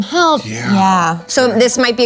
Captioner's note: everyone agrees in unison